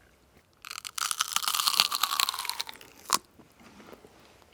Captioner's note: crunching